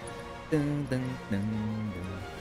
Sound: humming

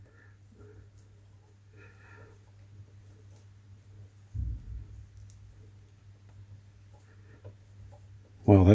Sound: silence

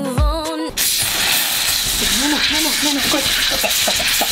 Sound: soda spewing and gurgling

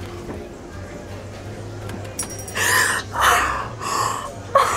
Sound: girl crying

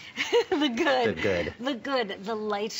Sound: laughter

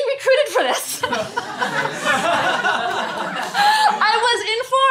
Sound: laughter

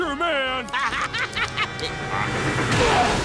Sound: laughing

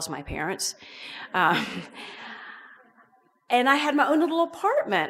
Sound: audience laughs

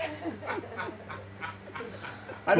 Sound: more laughter

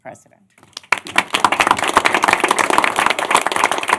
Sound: applause

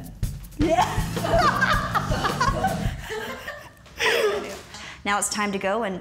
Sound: laughs

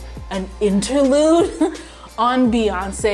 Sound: chuckles

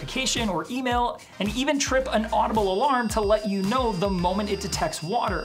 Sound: alarm beeping

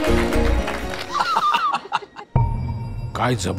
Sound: laughs

